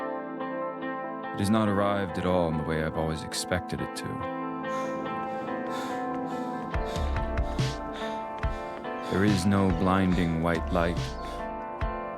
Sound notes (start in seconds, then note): 4.6 Eric breathing heavily; 4.7 running footsteps